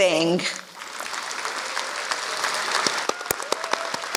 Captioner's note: applause